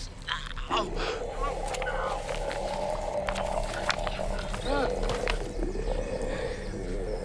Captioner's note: mummy snarling; heart squishing